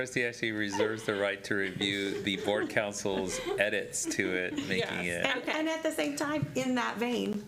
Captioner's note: laughter